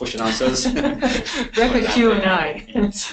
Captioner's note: laughing